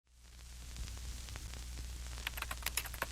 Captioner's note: static; typing